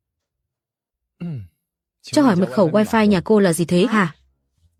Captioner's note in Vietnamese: hắng giọng